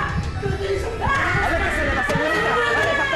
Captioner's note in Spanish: se oyen gritos